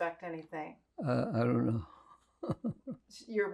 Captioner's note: laughing